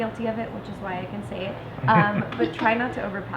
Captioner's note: laughing